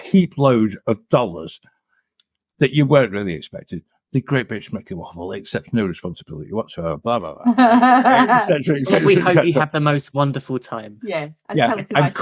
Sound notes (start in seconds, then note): 7.4 laughing